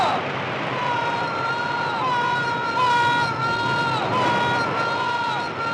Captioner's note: echoing